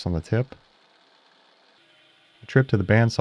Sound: milling machine whirring

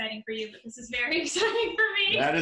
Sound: laughing

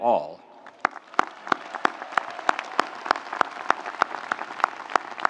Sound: audience applauding

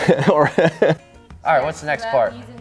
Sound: laughing

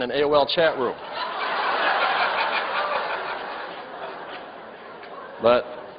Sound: laughter

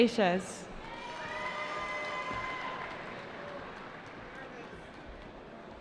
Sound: cheering

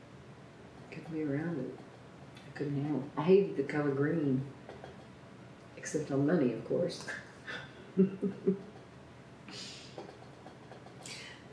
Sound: laughs

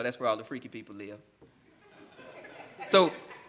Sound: laughing

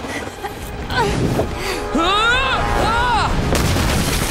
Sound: grunting

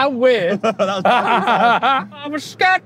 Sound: both laughing

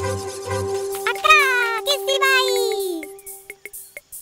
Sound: Nina speaks gibberish happily

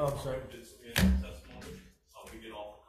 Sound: faintly speaking

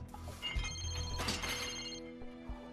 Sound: phone ringing

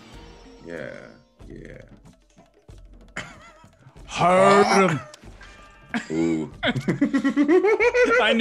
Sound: laugh

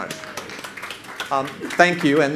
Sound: audience claps

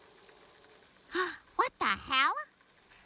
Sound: gasps

